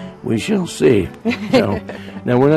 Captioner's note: chuckling